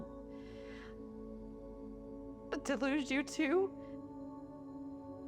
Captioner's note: inhales